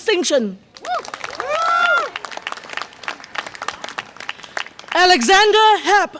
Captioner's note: audience applause and cheer